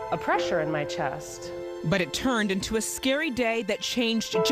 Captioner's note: voiceover